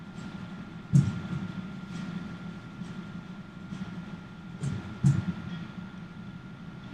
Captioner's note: heartbeats